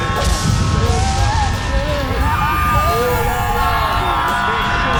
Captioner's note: speaking foreign language; all moaning